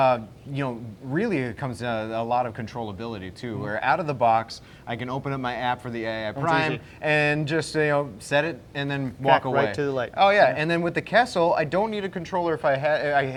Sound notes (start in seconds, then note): 10.0 voice muffled